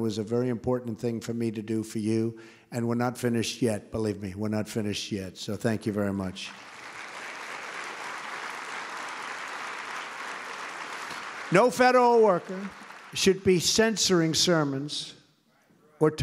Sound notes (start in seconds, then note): 6.4 applause